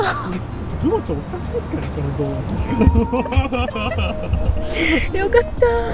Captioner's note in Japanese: 笑い